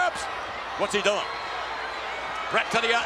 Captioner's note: spectators cheering